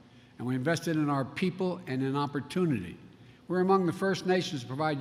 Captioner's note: none